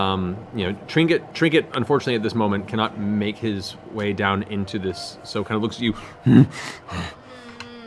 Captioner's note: bear grunts